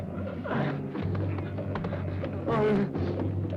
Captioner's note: groaning